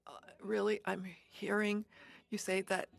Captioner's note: speaking French